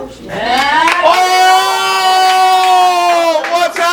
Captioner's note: green team clap